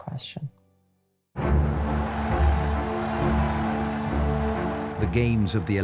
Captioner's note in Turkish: kalabalık tezahürat